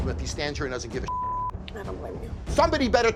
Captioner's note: beep